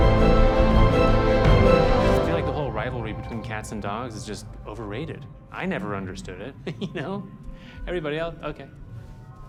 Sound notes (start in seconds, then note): 6.6 chuckles